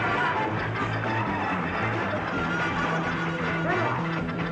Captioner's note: muffled shouting